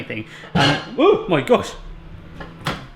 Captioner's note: dish clattering